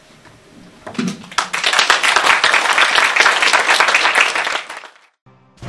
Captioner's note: applause